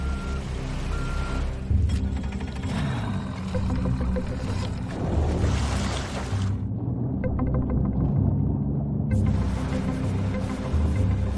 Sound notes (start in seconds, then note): 1.8 motor humming; 1.8 tense music continues